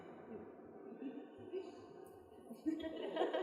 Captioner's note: laughter